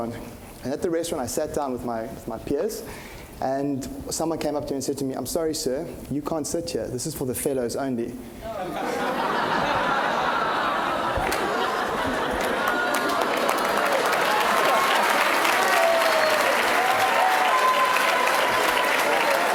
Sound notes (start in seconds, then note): 14.5 applause